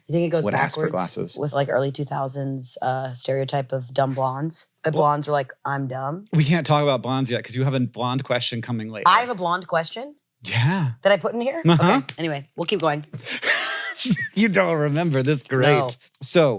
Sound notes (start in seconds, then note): 13.2 wheezes